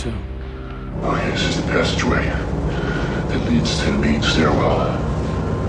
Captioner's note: deep voice speaking